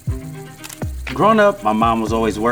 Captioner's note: calm string music; film whirls; shutter clicks